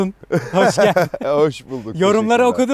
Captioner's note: laughing